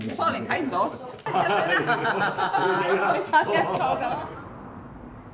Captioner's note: laughter